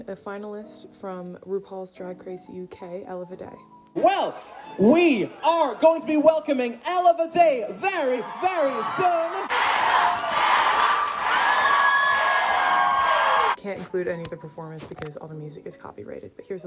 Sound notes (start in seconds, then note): 8.8 crowds cheering; 10.1 crowds